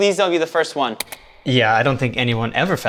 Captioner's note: button clicking